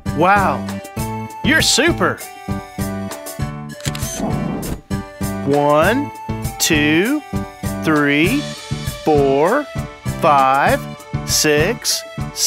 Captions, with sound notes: Wow! You're super! [SFX: Camera Shutter] One Two Three Four Five Six